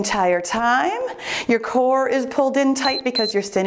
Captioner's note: timer beeps